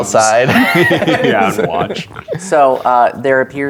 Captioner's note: laughs, snorts